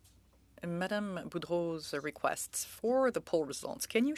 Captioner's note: speaking French